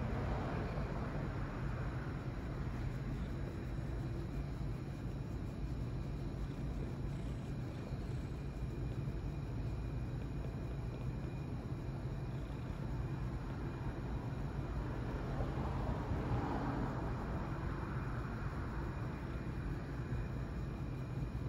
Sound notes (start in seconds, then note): 0.2 purring increases; 6.2 loud purring